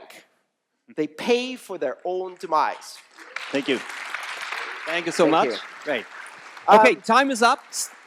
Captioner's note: applause